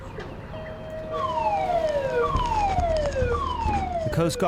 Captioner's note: siren wailing; eerie music